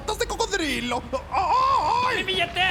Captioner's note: screams